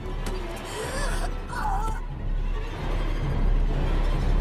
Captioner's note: gagging; eerie music